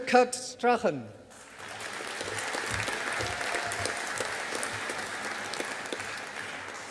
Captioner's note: audience applauding